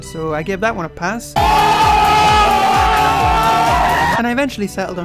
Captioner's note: people cheering